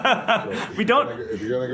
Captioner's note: laughter